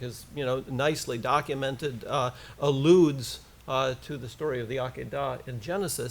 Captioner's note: foreign language